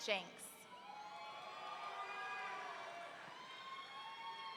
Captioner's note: audience cheering